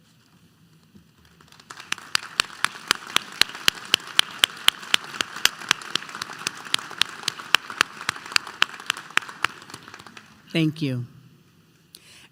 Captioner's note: applause